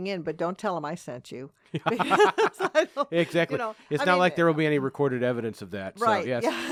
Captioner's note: laughing